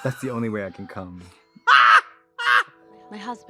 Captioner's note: Trixie laughs